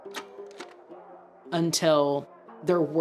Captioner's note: slide clicks